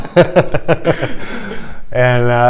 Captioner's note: laughter